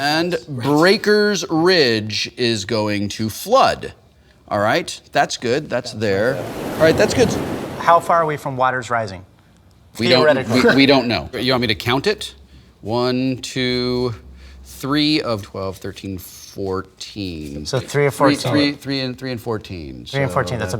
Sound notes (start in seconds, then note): 6.0 waves crashing